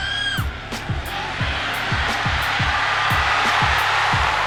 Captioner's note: cheering